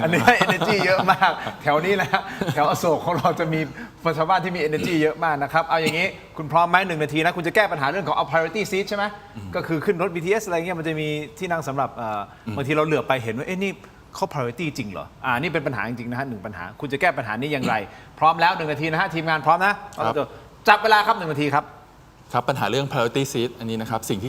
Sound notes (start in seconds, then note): 0.0 laughter; 4.7 clears throat; 9.3 clears throat